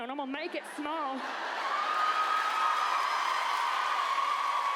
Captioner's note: audience cheers